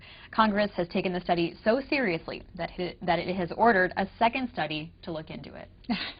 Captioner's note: laughter